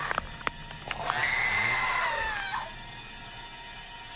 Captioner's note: woman screaming; suspenseful music